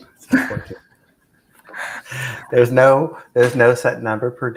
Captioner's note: laughter